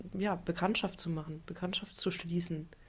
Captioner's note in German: none